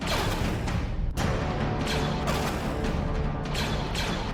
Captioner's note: blasters firing